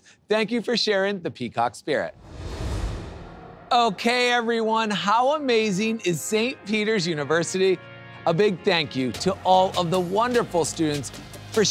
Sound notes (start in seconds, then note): 2.1 graphics whoosh; 3.7 soft electronic music